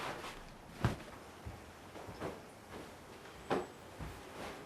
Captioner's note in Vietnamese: tiếng giũ gối